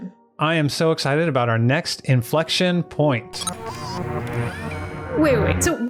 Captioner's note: inflection point sound effect